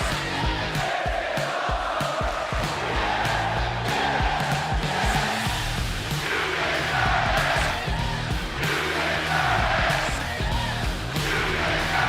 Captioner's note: fans chanting